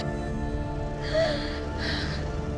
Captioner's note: sobbing